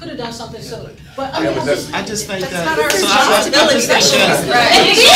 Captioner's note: crowd chattering